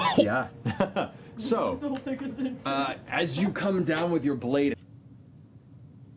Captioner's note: laughs